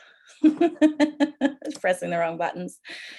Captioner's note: chuckles